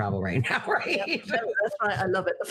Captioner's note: laughing